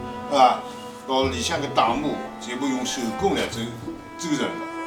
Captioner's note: wu Chinese